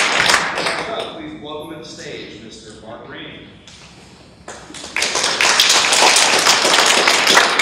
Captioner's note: audience clapping